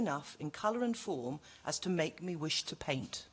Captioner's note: none